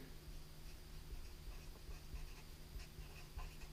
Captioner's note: pen scratching